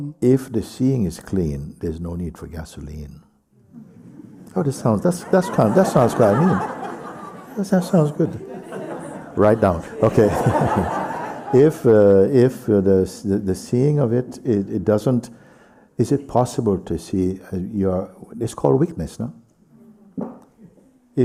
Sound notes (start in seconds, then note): 7.1 laughter